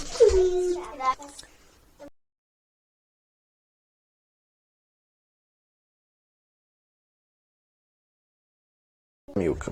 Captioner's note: silence